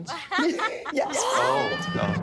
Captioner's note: laughter